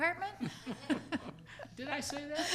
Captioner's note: laughs